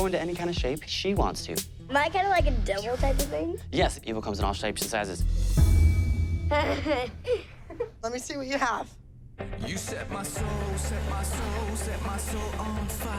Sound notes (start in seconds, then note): 4.8 suspenseful music; 6.5 nervous laugh